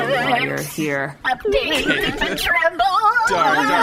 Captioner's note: audibly shaking